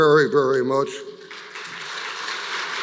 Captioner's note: applause